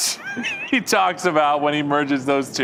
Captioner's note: laughing